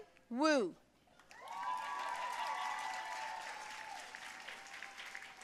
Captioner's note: audience cheering and applauding